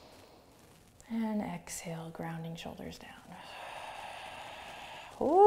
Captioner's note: inhales slowly; exhales slowly